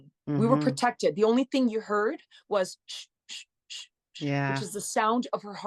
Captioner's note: makes wooshing sound